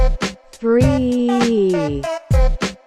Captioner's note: computer voice: threeeeeeee